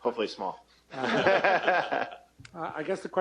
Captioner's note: laughter